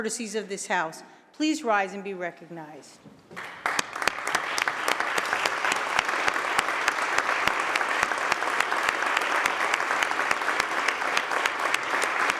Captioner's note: applause